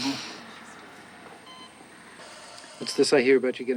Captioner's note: machine beeping